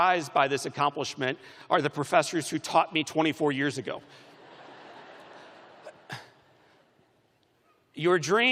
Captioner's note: laughter